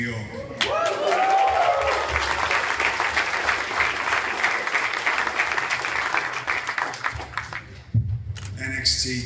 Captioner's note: cheers & applause